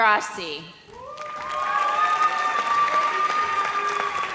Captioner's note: audience cheers